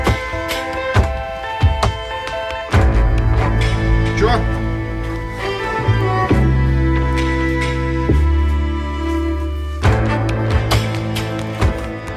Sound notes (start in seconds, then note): 4.8 speaking foreign language; 6.6 dramatic music